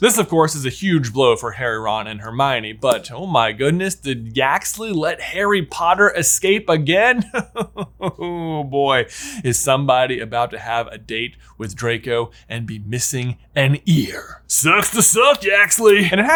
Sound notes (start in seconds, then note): 7.1 laughs